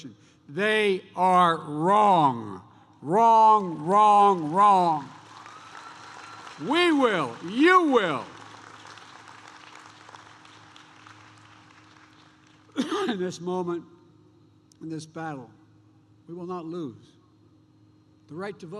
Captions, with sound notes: They are wrong. Wrong, wrong, wrong. (Applause.) We will, you will -- in this moment, in this battle, we will not lose the right to vote,